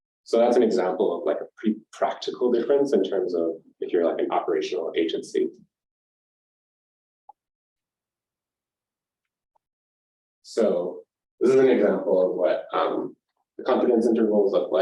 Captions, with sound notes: so that's an example of like a pretty practical difference in terms of materializing operational agency. [SIlence] So this is an example of what the confidence intervals look